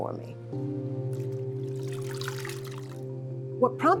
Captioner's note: soft music; water splashing